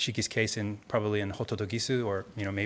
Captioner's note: speaking in Japanese